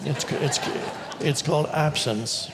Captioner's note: audience laughs